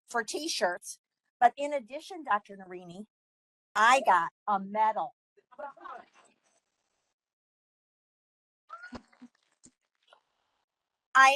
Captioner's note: laughing and applause